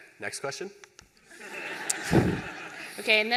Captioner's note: laughter